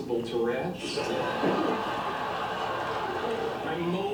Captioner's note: audience laughter